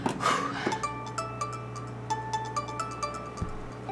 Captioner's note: phone ringing